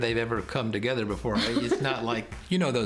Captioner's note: laughter